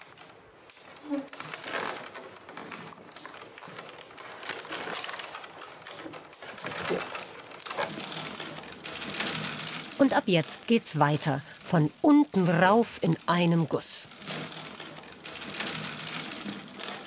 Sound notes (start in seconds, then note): 11.3 with an accent; 14.9 rattling of the willows